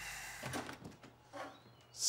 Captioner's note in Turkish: Kapı açılır